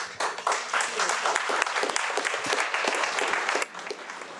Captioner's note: audience applauding